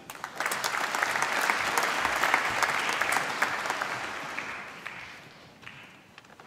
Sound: applause

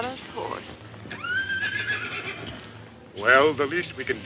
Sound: horse whinnies

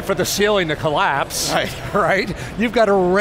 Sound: laughs

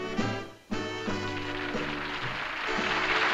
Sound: applause

